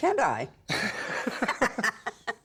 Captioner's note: laughter